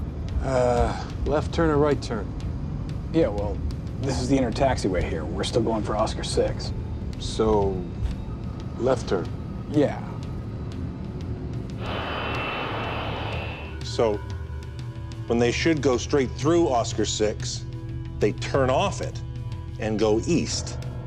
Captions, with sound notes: - A left turn or right turn? - Yeah, well, this is the inner taxiway here, we're still going for Oscar-6. - So left hand? - Yeah. (humming) (airplane engine roaring) - So when they should go straight through Oscar-6, they turn off it and go East.